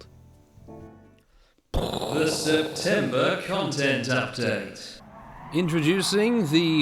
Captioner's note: pkoooww